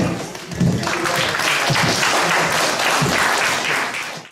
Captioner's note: applause